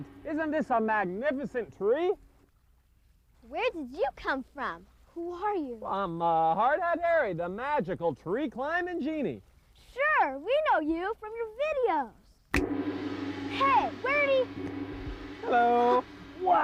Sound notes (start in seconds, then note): 12.4 finger snaps; 12.6 gong